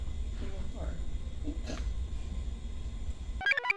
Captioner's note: snorts; computer chirps